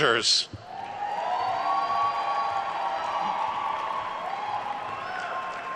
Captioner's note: attendees cheering and applauding